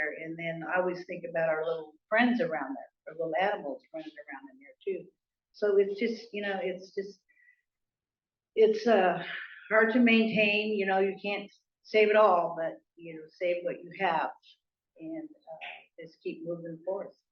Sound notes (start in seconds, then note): none